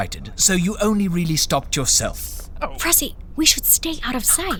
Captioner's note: whispering